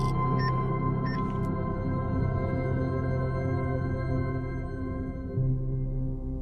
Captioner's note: electronic chime; EKG machine beeping